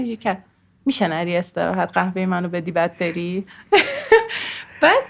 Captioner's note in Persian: خنده